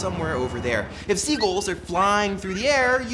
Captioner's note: gulls squwaking